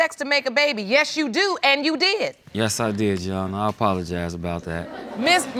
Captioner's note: laughter